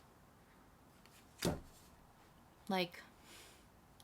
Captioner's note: sass